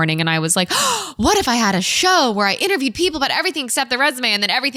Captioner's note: gasp